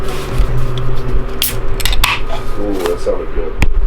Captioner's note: can clicks